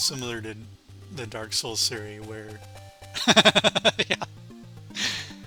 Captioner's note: laughs